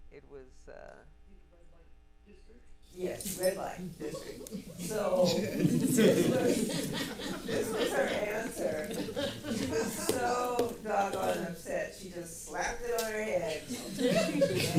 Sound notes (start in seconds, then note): 5.7 audience laughing